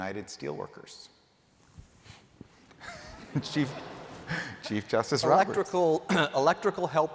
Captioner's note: laughter